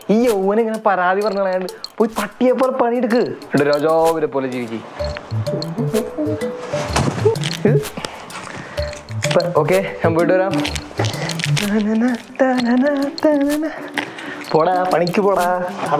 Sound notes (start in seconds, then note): 10.4 humming